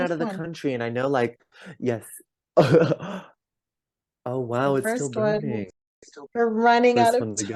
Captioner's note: laughs